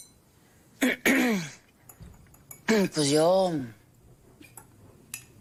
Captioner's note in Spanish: Carraspea